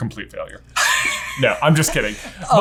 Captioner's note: laughing